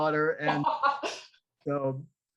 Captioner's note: laughing